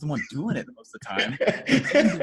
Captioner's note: laughs